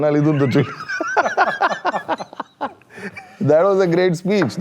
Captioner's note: laughs